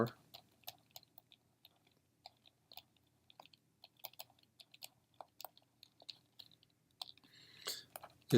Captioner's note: typing